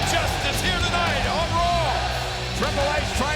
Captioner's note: audience chanting